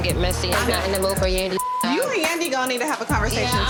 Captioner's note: beep